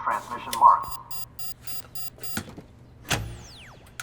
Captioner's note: radio beeping